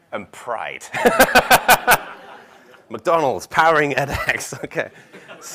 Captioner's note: laugh